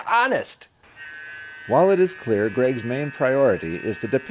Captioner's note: voiceover